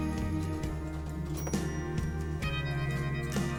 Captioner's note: typewriter sounds